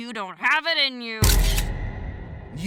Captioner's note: camera snap